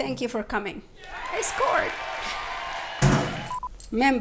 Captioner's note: crowd cheering